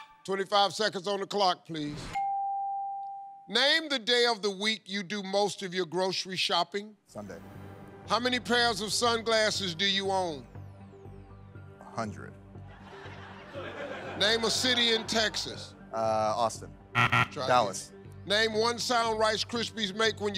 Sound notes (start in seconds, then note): 12.6 laughter; 16.9 buzzer